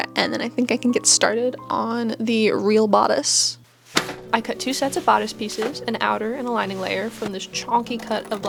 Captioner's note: thump